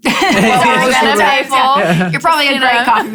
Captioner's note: laughing loudly